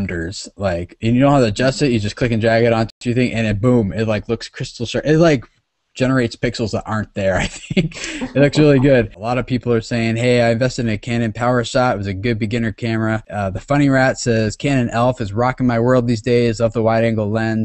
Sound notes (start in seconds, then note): 7.4 laughs